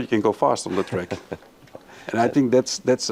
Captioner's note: laughing